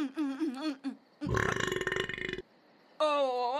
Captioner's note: belches